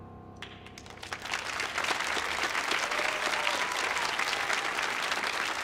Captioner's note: audience applauding